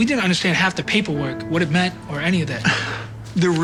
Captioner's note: scoffs